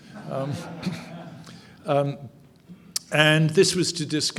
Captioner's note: audience chuckling